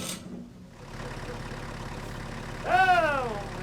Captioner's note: engine revving